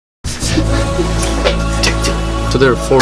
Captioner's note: laughing